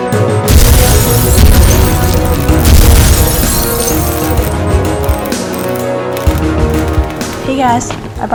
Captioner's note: explosions